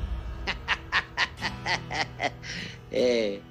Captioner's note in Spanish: Risas